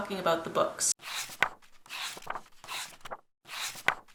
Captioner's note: pages turning